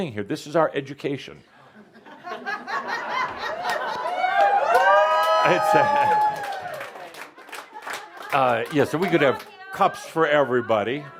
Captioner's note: laughter; audience responds “Woo!” and some applause